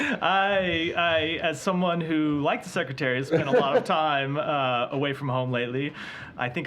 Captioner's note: laughter